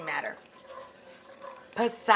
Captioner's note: spoon scraping